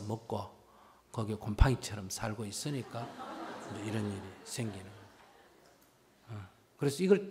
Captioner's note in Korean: 청중웃음